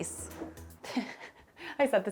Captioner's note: chuckles